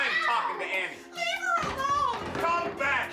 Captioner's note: slapping sound